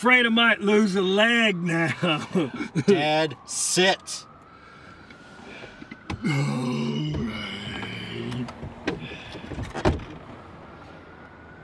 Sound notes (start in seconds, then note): 1.9 laughing; 6.2 burps while speaking